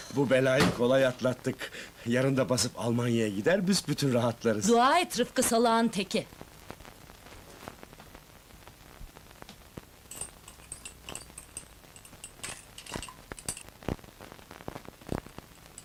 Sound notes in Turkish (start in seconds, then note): 12.0 bulaşik tabak çanak sesleri̇